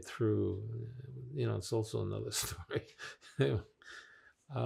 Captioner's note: laughing